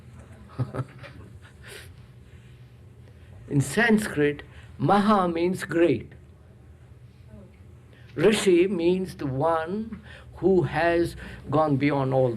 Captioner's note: laughs